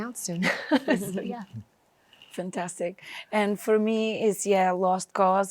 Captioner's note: chuckles